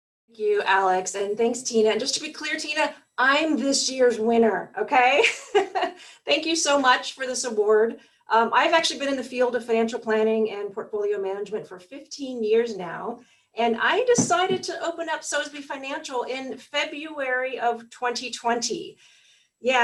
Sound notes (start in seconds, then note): 5.5 laughs